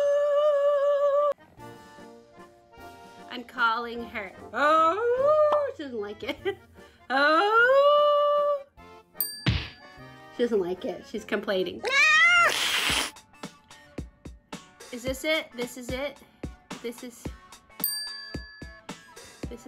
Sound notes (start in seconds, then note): 9.2 bell chimes; 11.8 cat meows; 17.8 bell chimes